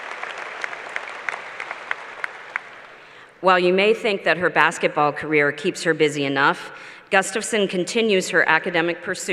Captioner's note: applause